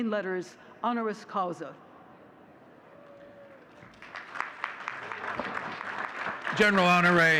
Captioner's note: audience cheering and clapping